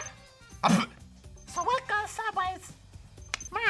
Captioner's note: squeaky voice